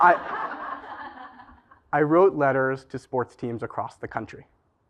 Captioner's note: laugh